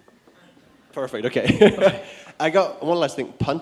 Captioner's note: chuckling